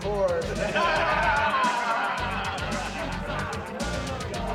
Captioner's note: group laughing; upbeat music continues